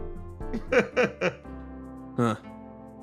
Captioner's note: laugh